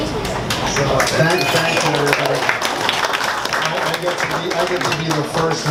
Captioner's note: audience applauds